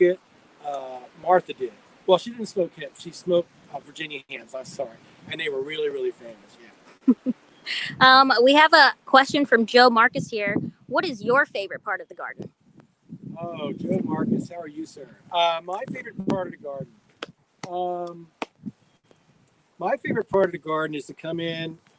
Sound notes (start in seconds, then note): 6.9 chuckles; 17.6 claps